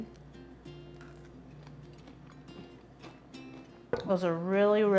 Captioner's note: munching